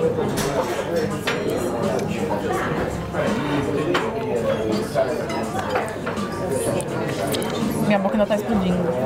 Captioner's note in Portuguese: ambiência de restaurante